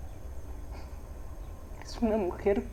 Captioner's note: birds chirping